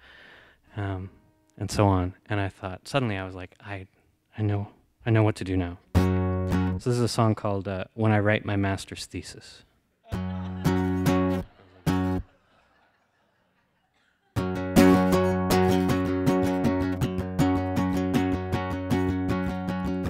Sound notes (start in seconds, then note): 10.0 laughter; 14.3 guitar playing